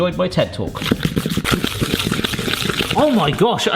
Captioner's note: spoon scraping